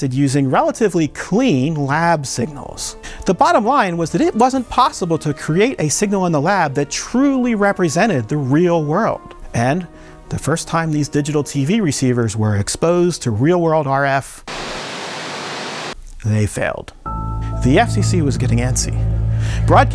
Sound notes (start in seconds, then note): 14.4 signal hissing